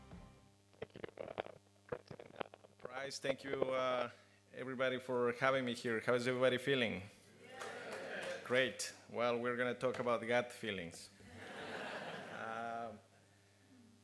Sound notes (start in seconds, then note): 7.4 audience responds; 11.2 laughter